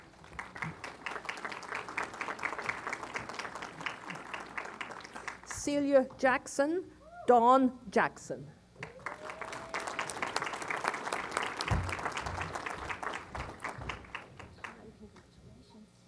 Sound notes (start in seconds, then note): 0.0 applause; 8.8 applause